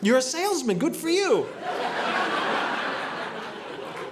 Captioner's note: audience laughing